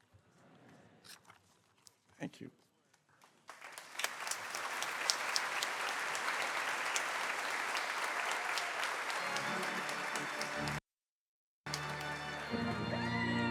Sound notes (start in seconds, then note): 3.3 applause